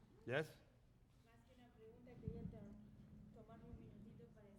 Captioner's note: speaking spanish